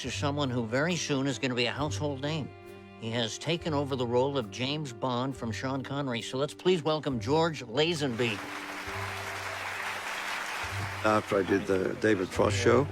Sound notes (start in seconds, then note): 8.0 applause